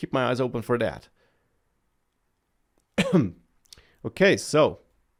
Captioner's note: coughs